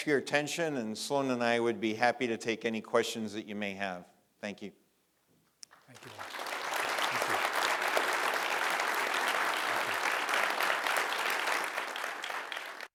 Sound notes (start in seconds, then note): 5.1 applause